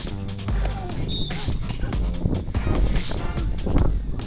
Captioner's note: whistle blows